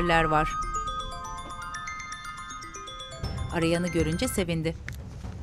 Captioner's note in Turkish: Telefon zili sesi